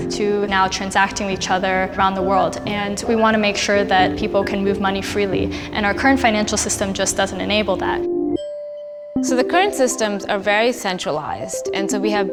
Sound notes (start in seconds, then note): 8.4 chime